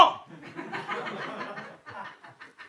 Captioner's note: laughter